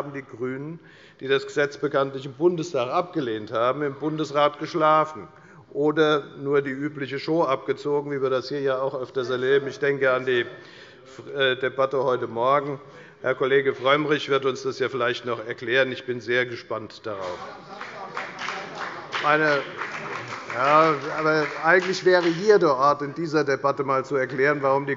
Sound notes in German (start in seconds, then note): 17.2 Beifall bei der FDP - Zurufe von dem BÜNDNIS 90/DIE GRÜNEN